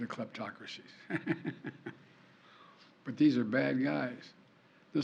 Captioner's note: laughs